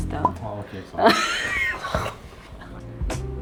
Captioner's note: choked laughter